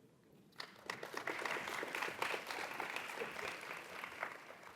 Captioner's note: audience applauds